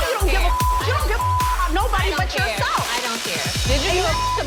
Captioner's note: beep